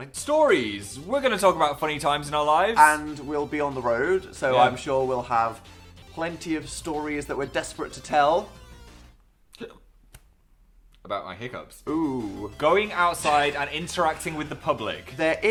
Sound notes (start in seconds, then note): 9.5 hiccups